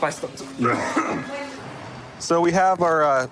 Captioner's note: coughs; clears throat